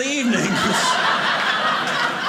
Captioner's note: audience laughing